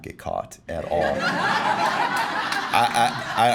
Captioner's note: laughing